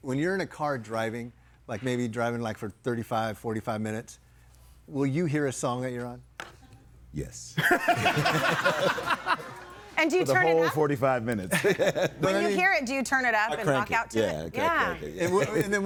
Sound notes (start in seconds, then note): 7.6 audience laughing